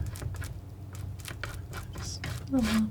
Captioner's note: scratching